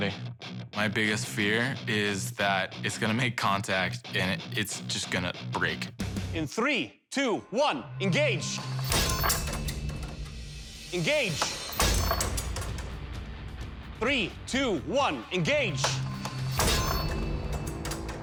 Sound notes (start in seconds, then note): 8.8 clattering; 11.4 clattering; 15.9 clattering